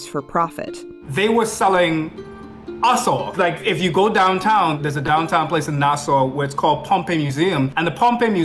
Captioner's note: foreign